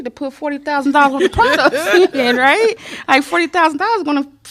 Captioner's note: laughter